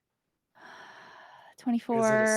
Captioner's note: sighs